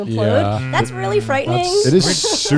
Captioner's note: guys humming in agreement